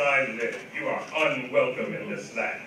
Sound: none

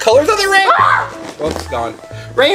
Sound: yelling

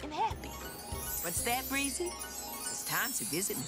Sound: chiming

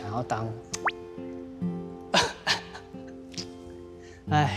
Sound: choking back tears

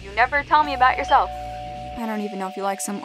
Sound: doorbell ringing

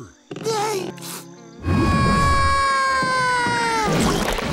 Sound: screaming

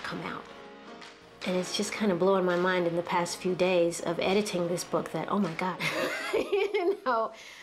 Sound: laughs

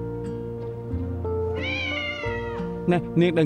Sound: cat meowing

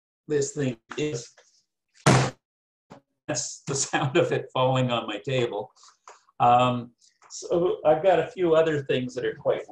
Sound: bang sound

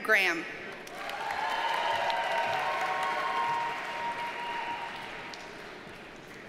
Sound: audience cheers and applauds

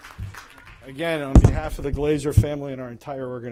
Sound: applause

